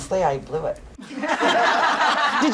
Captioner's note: laughter